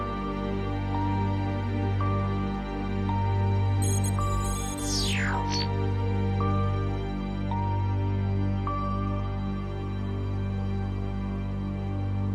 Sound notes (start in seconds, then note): 4.1 electricity fizzing; 4.1 gentle music continues